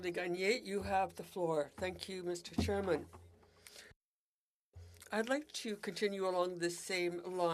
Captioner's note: speaking French